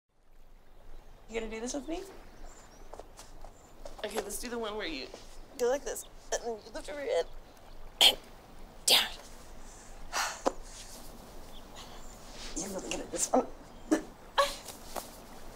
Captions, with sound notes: (nature sounds) - Are you gonna do this with me? - Okay, let's do the one where you ... - Go like this. and lift your head. (groans) - Damn it. (exhales) - You'll want to get it this up.